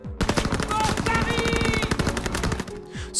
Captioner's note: french Accent